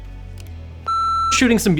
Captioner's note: beep